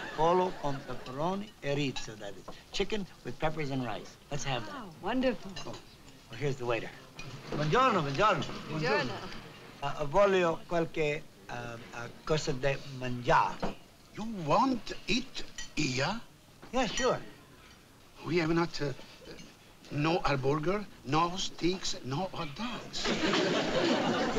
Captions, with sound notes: [SPEAKING ITALIAN] Chicken with peppers and rice. Let's have that. - Wow. Wonderful. Oh, here's the waiter. Buongiorno. Buongiorno. - Buongiorno. Buongiorno. [SPEAKING ITALIAN] You want eat here? Yeah, sure. We have not-- no hamburger, no steaks, no hot dogs.